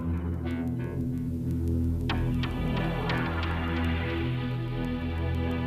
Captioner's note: none